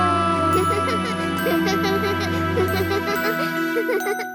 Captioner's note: Bommi starts laughing